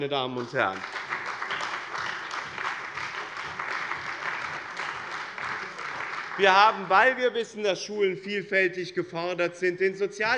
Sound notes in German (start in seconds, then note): 0.0 Beifall bei dem BÜNDNIS 90/DIE GRÜNEN und der CDU